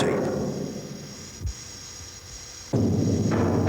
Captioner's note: metal rumbling